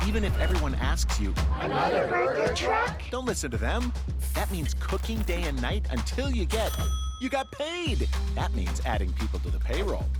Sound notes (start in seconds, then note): 6.5 ding